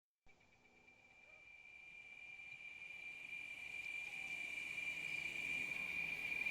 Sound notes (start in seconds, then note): 0.7 cicadas buzzing